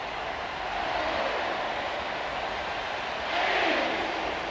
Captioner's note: crowd chanting